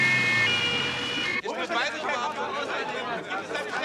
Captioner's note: animated conversation